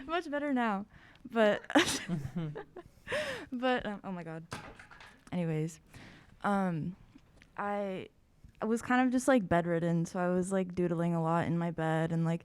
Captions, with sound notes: - I'm much better now! But... (laughs) Oh, my god! (object clatters) Anyways. I was kind of just bedridden, so I was doodling a lot in my bed.